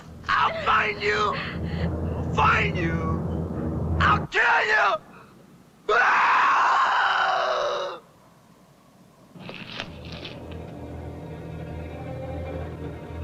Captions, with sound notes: I'll find you! I'll find you. I'll kill you! (screaming) (ominous instrumental music)